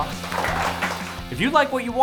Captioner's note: applause